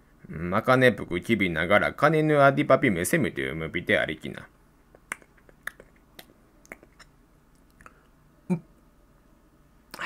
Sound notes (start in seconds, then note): 4.9 chomp chomp chomp chomp